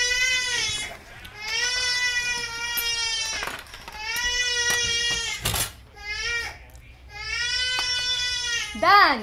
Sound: baby crying

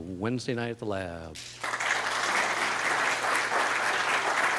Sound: audience applauding

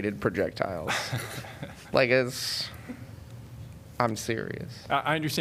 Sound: laughter

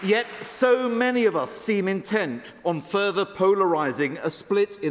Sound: applause

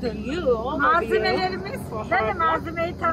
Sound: Turkish

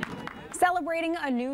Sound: applause

